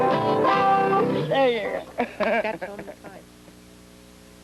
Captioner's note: laughs